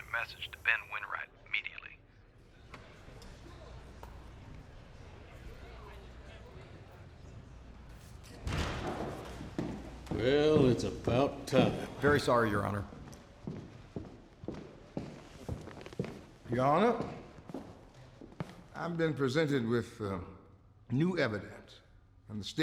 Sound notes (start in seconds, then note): 2.2 people chattering softly; 8.6 doors open, footsteps; 13.0 footsteps